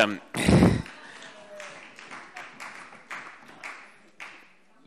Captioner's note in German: Vereinzelter Beifall CDU und BÜNDNIS 90/DIE GRÜNEN